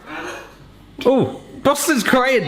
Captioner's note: dog grunting